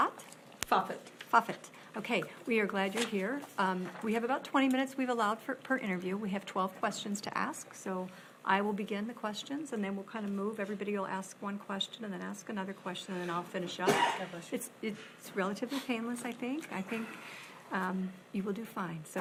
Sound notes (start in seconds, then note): 13.8 sneezes